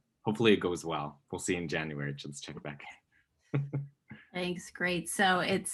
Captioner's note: laughs